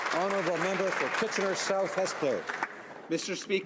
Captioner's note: some Applause